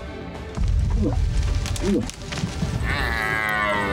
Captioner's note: moose grunts; elk bugling